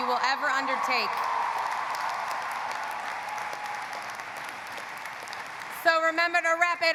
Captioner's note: audience cheering; audience applauding